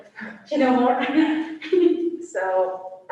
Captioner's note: laughs